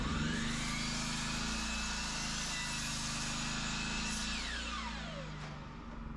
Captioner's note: drill whirring